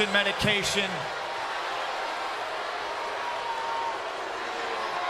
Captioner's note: crowd boos